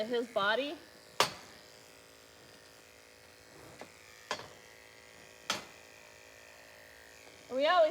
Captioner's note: clippers buzzing